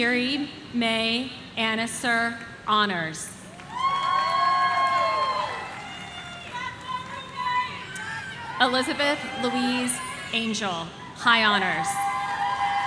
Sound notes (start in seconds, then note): 3.6 audience cheering; 6.3 people shouting